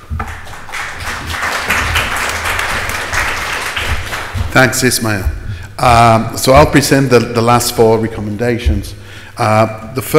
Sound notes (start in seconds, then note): 0.0 audience applauds